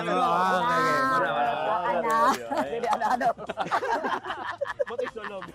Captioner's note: laughter